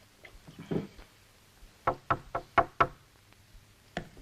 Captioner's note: knock at door